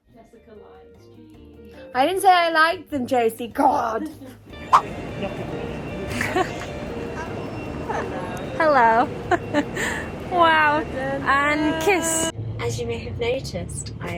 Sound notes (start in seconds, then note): 6.0 laughs; 10.0 laughs